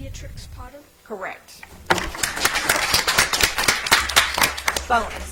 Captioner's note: audience applauds